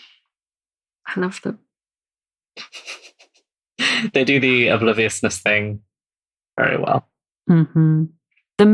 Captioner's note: laughs